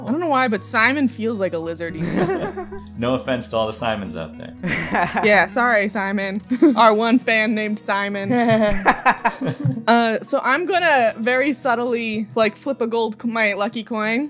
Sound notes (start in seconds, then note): 1.9 laughter; 8.8 laughter